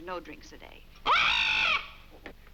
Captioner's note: squawks